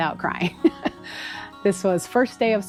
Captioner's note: laughs ruefully